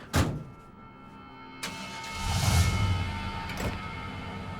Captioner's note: engine turns over